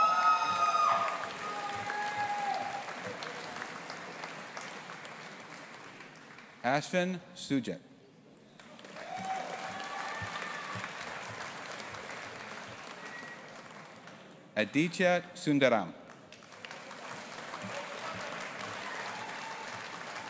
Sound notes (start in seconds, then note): 0.0 audience applauding and cheering; 8.6 audience applauding; 16.2 audience applauding